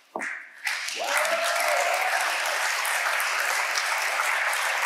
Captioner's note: audience applauding